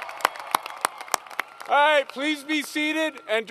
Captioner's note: applause